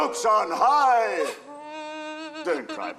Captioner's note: Margaret weeps